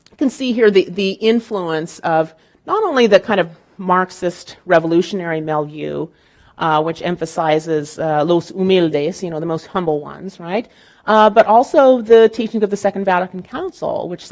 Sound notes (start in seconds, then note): 8.0 speaking in Spanish